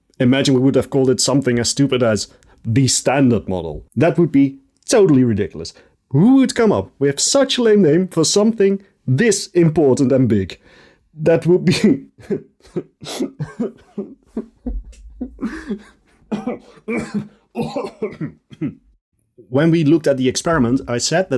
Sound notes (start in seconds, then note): 14.8 sobs; 16.1 coughs